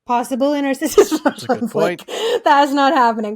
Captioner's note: laughing